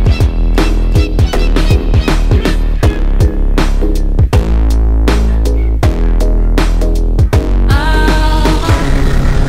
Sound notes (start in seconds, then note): 5.4 Pepito Barking